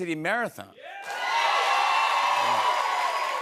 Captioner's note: cheers and applause